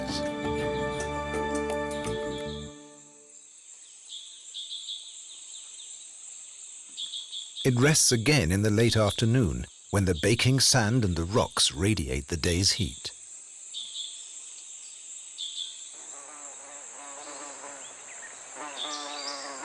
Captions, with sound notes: (insects chirping) It rests again in the later afternoon when the baking sand and the rocks radiate the day's heat. (insects buzzing)